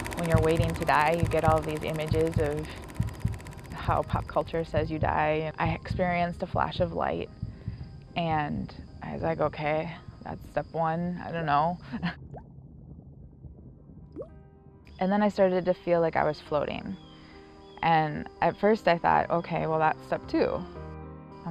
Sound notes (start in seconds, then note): 12.1 water drips